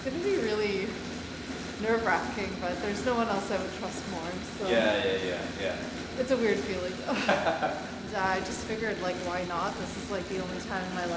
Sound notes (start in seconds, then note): 7.0 laughing